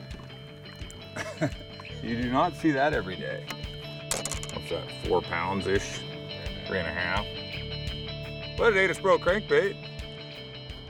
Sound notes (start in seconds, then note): 1.1 chuckling; 4.1 clattering